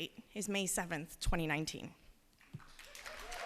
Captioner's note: applause